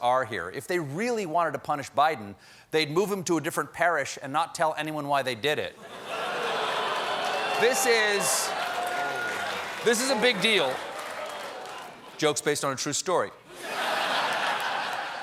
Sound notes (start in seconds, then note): 8.2 booing; 8.2 laughter